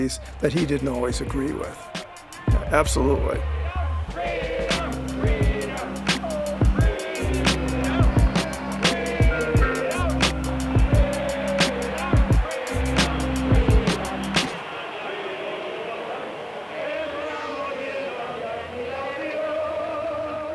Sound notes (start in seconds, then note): 5.3 marchers chant "Freedom"